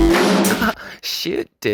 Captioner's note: man laughing